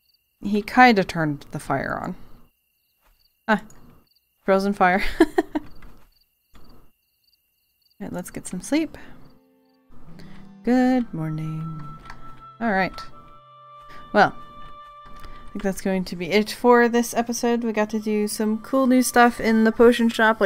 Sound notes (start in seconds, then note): 5.0 lauighs